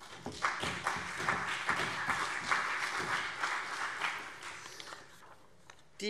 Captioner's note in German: Beifall CDU und BÜNDNIS 90/DIE GRÜNEN